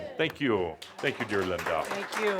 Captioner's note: audience applause